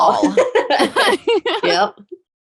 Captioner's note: laughing